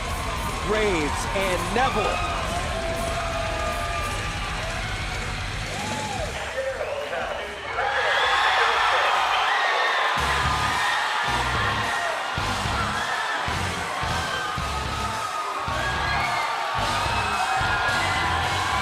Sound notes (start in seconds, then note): 5.2 crowd cheering